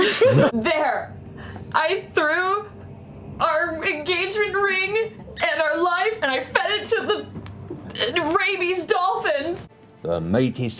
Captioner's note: near tears